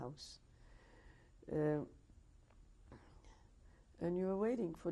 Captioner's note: pauses for 3 seconds